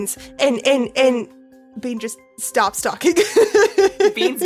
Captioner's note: laughs